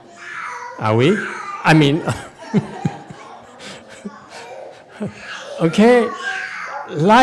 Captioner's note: laughs then shakes head